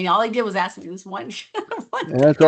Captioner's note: laughs